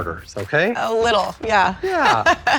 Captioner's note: laughs